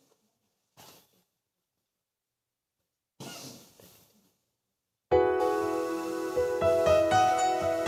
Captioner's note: microphone static and knocking